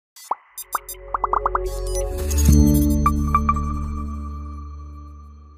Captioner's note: graphics popping; bright music